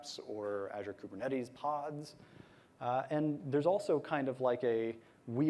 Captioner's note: none